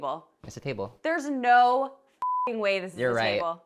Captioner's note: beeps